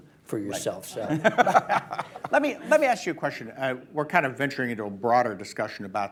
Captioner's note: laughter